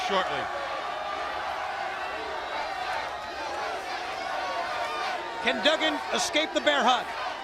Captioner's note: crowd chatter